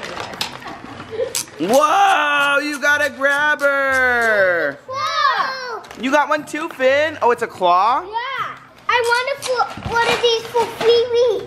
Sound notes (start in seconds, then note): 4.6 shouts